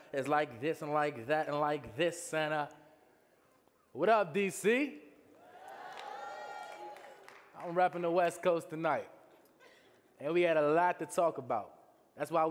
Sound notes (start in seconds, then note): 5.4 audience cheering